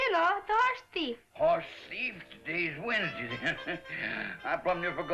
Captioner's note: chuckles